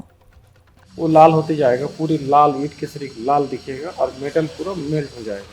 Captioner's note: speaking foreign language